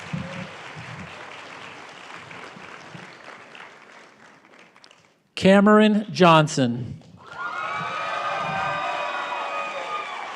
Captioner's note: applause; cheering and applause